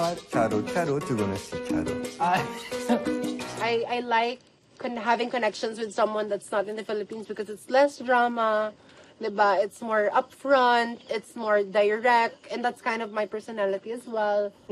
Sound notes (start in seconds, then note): 2.2 chuckles